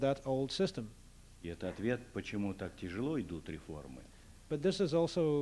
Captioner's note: non-english speech